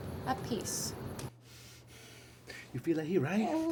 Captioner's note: Vargas breathes heavily; Nikki whimpers muffled